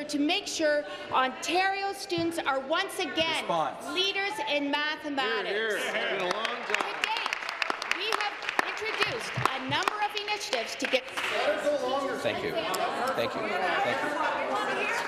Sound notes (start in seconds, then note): 10.5 applause